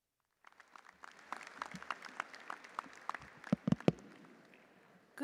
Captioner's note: audience applauding